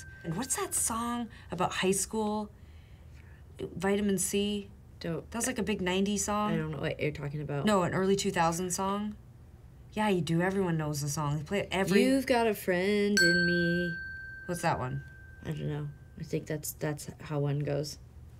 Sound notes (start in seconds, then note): 13.2 bell dinging